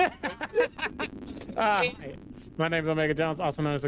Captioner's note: laughter